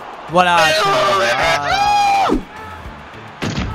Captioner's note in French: Cri de derrière